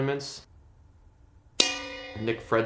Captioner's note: bell dings